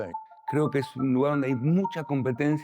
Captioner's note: Spanish